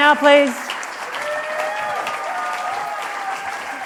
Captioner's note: applause continues